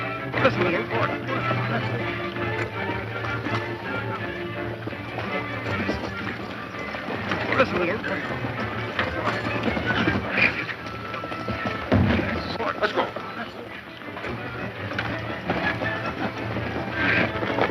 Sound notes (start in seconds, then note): 2.9 dramatic music; 12.0 boom; 14.4 dramatic music